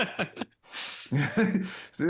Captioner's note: laughs